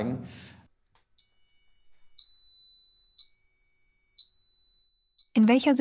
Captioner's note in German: Alarm